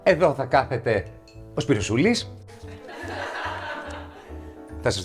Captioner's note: laughs